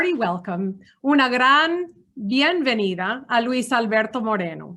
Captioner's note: speaking Spanish